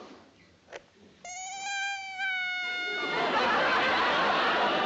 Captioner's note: a doll sound